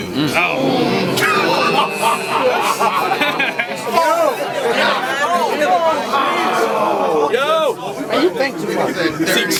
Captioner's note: crowd Reaction